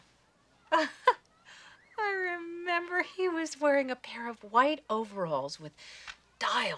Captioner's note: laughs